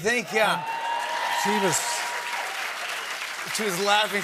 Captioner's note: cheers and applause